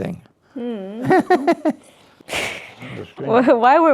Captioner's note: laughs